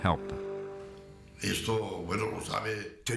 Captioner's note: non-english speech